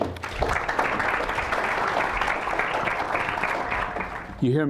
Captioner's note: applause